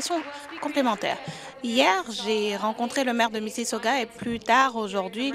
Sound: applause

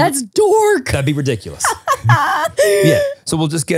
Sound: laughing

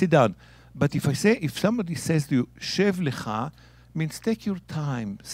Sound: speaking in Hebrew

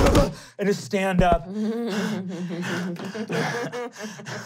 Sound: panting

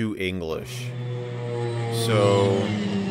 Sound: plane sounds

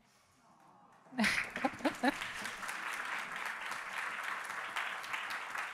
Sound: audience applauding

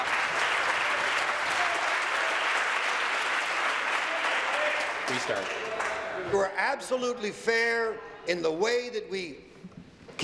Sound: applause

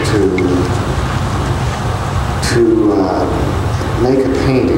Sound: none

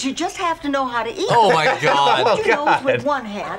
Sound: laughs

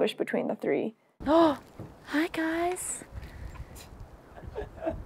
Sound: gasp

